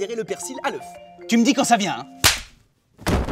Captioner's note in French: claque